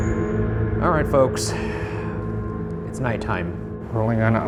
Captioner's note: sudden ominous music; sighing